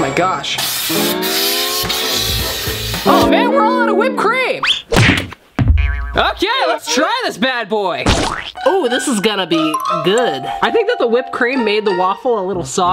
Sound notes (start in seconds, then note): 0.6 empty can spraying